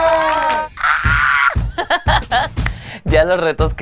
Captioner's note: gay squeal